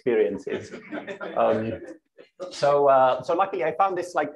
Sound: laughter

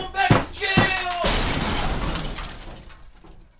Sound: crash

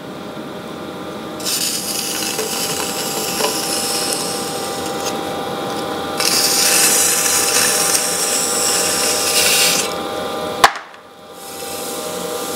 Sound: sound of clay being scrapped

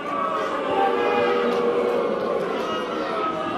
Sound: crowd booing

